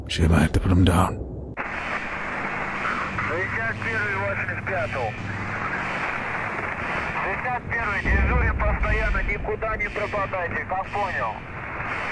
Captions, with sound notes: Shame I had to put him down. *Alarms*